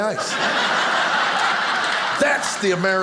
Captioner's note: audience laughing